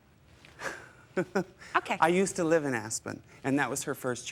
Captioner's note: chuckles